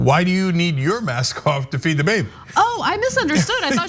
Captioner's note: laugh